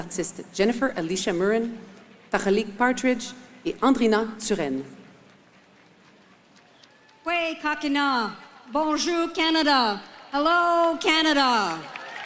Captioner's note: speaking French